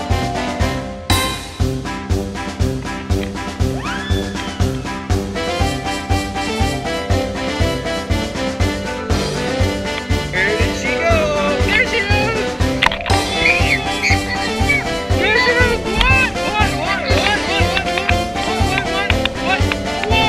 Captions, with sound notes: Where did she go? There she is! (girl squealing) There she is! Come on! (music drowns out voices)